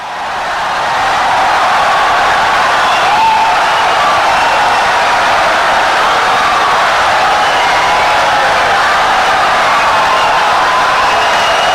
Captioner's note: wild applause and cheering for 17 seconds